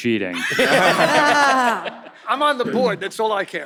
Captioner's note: all laughs